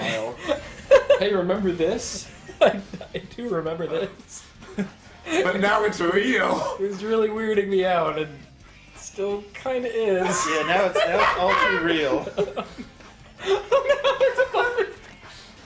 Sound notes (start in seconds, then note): 10.2 laughs; 13.6 laughing